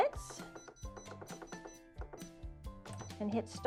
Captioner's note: machine beeping